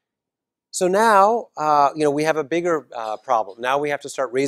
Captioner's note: cough